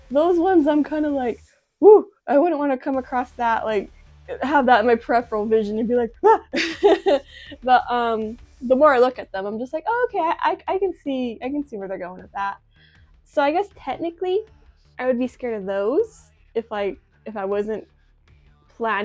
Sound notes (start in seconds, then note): 6.3 laughs